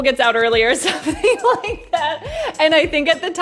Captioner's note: laughs